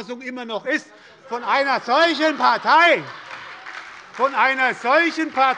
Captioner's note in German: Heiterkeit und Beifall bei der SPD